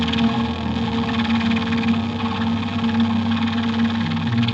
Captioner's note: static sounds